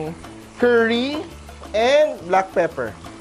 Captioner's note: sizzle